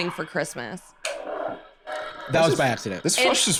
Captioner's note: toilet flushing